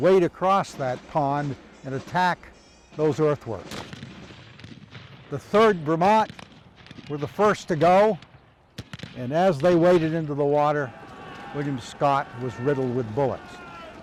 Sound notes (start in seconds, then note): 3.6 distant gunshots